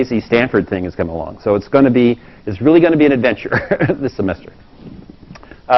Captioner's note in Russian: Смеется